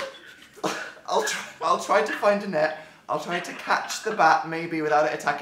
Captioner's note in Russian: М: *смеется